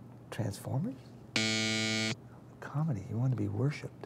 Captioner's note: buzzer buzzes